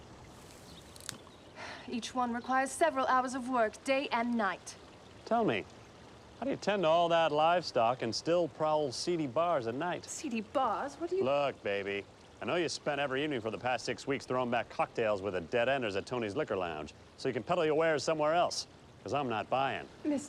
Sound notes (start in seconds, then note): 1.5 exhales